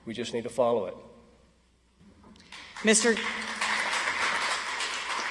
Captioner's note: audience applauds